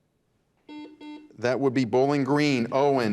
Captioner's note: buzzer beeps